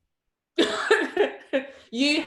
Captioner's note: laughs